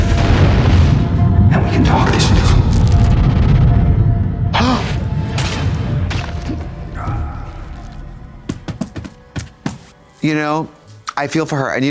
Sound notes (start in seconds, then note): 0.1 explosion booming; 2.9 blood spilling; 4.6 Trixie gasps; 4.8 blade squelching; 6.1 Adam grunting